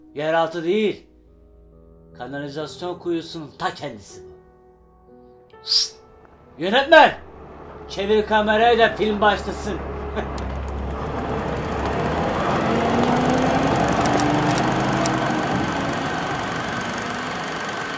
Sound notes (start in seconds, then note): 5.6 whistles; 10.0 laughs